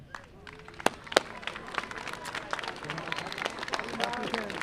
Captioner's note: graduates applauding